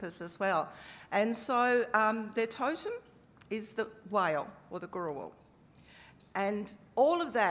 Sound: speaking aboriginal language

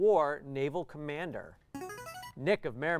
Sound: player buzzer

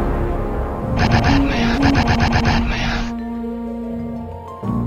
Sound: batman noises

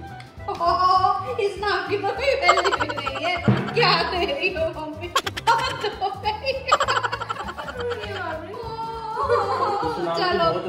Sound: laughter

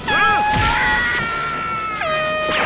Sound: air horn blaring; screaming; air horn blaring

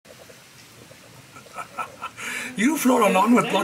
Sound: Lee Laughing

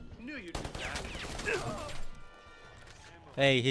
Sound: guns firing

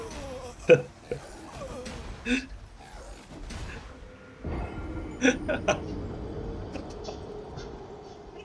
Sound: laughs

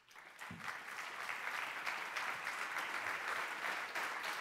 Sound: applause

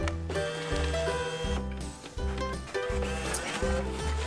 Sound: machine whirring

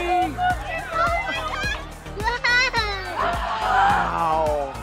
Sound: child laughing

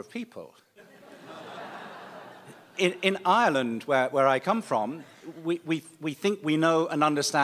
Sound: laughter

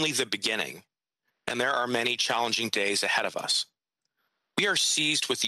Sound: speaking French

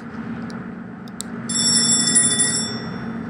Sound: door Bell rings

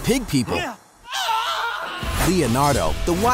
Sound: screaming

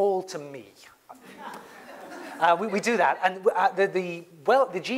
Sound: laugh

